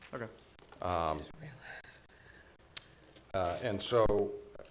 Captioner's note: board chatting quietly